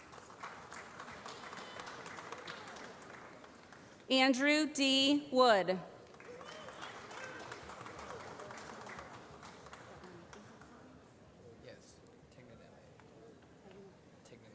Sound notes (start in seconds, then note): 0.0 applause; 5.9 applause